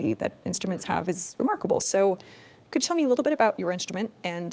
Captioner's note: none